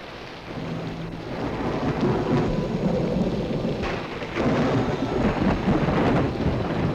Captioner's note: thunder rumbling; ominous orchestral music